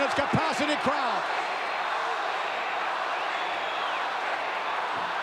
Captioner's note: audience cheering